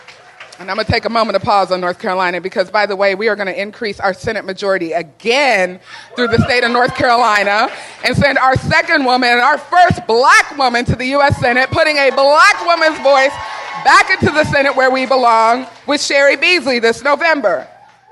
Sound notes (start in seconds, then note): 1.7 applause